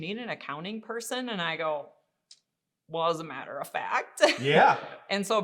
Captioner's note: laughing